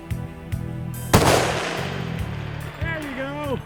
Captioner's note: gun fires